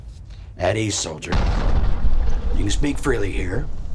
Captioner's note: bomb rumbling